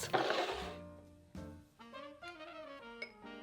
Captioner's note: bowl sliding